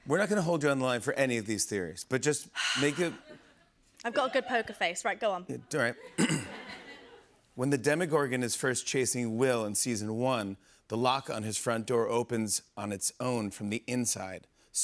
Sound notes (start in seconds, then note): 6.2 clears throat